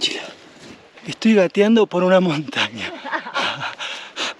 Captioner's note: laughs